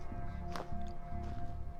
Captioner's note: footsteps